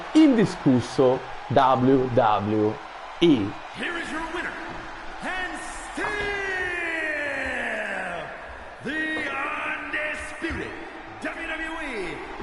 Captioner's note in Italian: Applauso